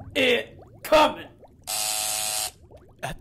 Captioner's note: X buzzes